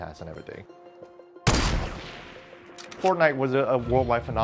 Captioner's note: gunshot